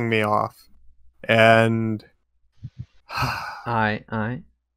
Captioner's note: sighs